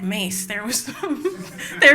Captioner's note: laughter